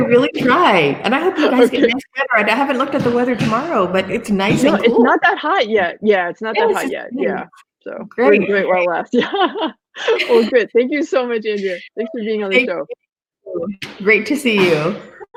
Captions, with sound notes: - I'll really try and I hope you guys (thud drowns out speaker) I haven't looked at the weather tomorrow but it's nice and cool. - It's not that hot yet, yeah. It's not that hot yet. We'll enjoy it while it lasts. (laughing) Thank you so much, Andrea. - Thank you. - Thanks for being on the show. - Great to see you.